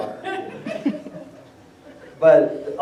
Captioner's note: laughter